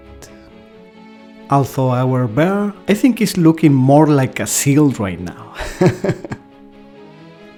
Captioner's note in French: rires